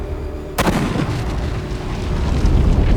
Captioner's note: gun firing